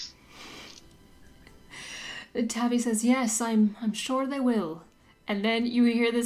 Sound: light Irish accent

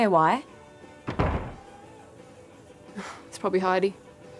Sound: door slams

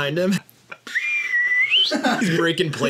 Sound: plays a slide whistle

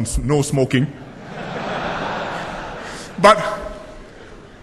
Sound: laughter

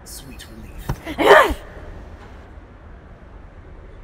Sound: angry growl

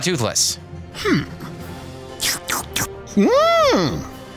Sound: slurps; trills

